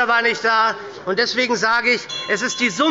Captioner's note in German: Unruhe – Glockenzeichen des Präsidenten